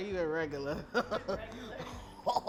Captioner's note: laughs